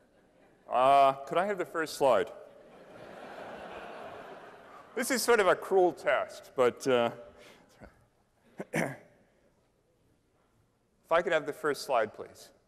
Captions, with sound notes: could I have the first slide? [LAUGHTER] This is sort of a cruel test. But, if I could have the first slide, please--